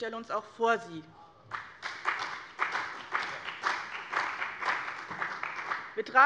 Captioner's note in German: Beifall bei dem BÜNDNIS 90/DIE GRÜNEN und der CDU